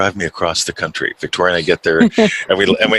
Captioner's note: laughs